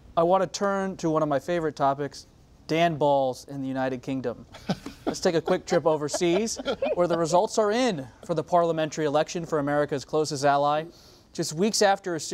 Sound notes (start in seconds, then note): 4.5 laughter